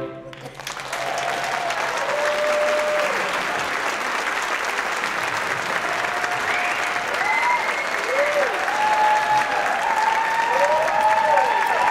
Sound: applause, cheering

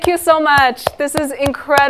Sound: clapping

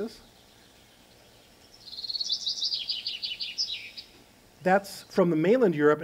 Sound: birds chirping

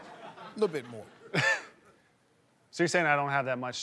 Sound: laughter; laughs

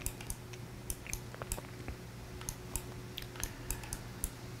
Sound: clicking

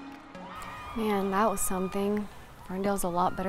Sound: crowd cheers in distance

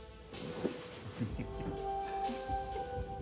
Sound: laughs

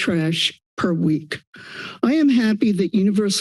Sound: inhales

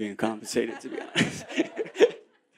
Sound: laughter

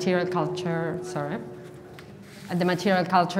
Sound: mic echoing

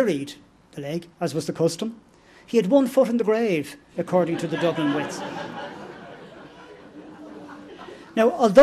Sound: laughter

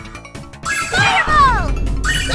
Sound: screams!

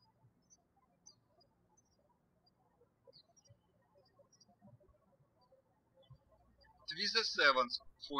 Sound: birds chirping

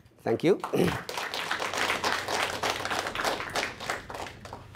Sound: applause

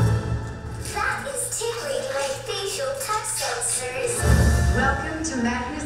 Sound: voiceover

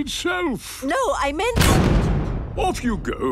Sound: blasts off

